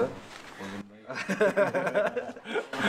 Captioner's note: laughs